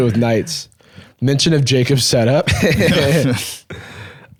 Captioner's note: both laughing